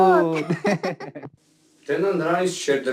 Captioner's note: haha